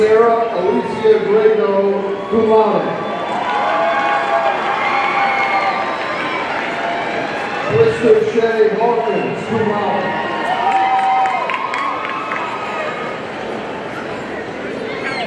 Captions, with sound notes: Sarah Alecia Griego, cum laude, (audience cheering) Krista Shay Hawkins, cum laude, (audience cheering and applauding)